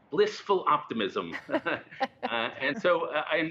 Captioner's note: laughter